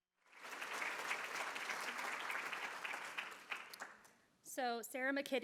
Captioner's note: applause